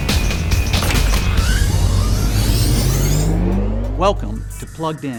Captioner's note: machinery whirs